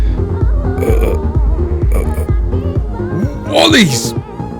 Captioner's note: groans